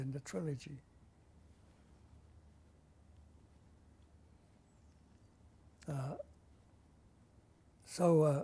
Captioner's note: pauses for 7 seconds